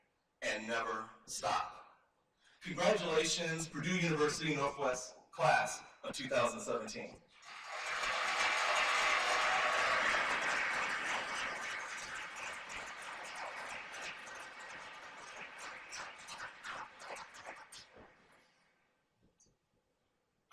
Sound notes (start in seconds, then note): 7.4 cheers and applause; 17.3 silence